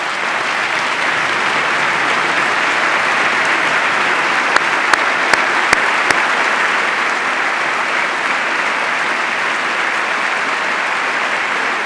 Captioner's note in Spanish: aplauso